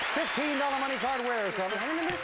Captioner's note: audience applauding